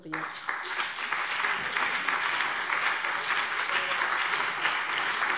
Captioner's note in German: Beifall BÜNDNIS 90/DIE GRÜNEN und CDU